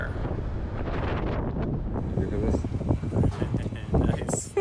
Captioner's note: wind blowing; laughing